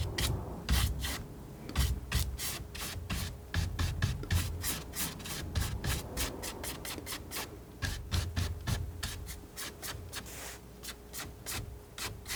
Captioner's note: scratching